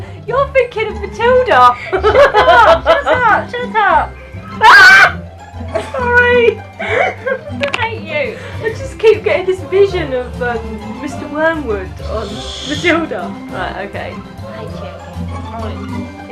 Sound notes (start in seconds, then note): 6.6 laughing; 6.8 mum laughs loudly